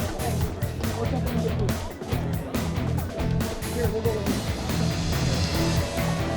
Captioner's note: people chattering; upbeat music